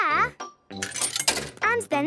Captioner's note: coin tumbling